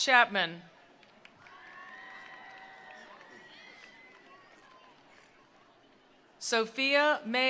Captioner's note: attendees cheering; attendees applauding